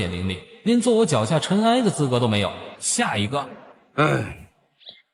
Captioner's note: sigh